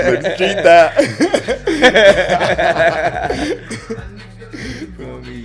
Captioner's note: laughs